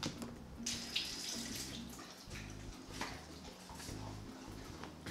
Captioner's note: faucet running